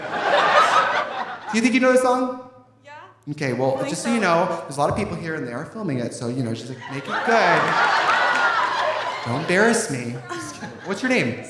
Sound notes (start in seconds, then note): 0.0 audience laughing; 6.7 audience laughing; 6.9 audience applauding; 10.0 laughs